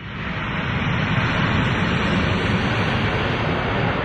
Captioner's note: aeroplane engine